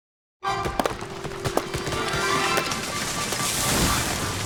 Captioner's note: chopping, wood cracking